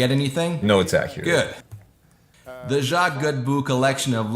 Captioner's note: laughs